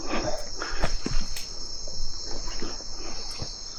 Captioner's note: snap